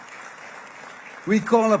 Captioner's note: applause